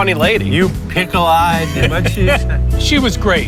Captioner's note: laughs